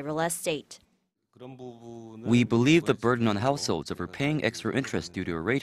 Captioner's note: Korean